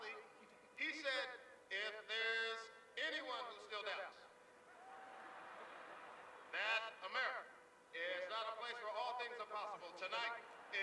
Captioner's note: laughter